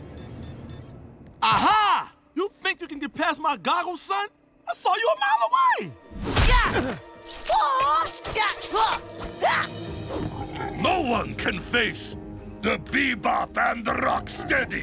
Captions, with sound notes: Aha! You think you can get past my goggles, son? I saw you a mile away. [grunting] No one can face the Bebop and the Rocksteady!